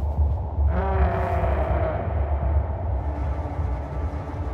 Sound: distant bleating

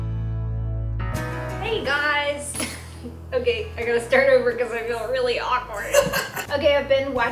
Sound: laughs

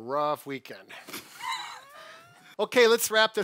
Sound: laughs

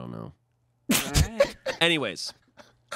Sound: laughs

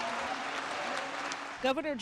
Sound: applause

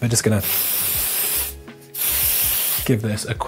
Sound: spraying

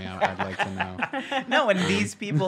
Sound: hosts laugh

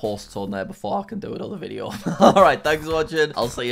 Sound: laughs

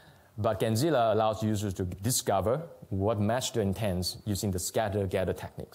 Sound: none

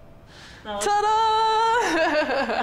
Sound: laughs

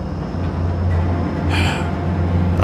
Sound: sigh

